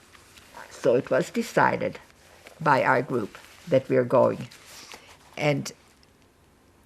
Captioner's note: wiping nose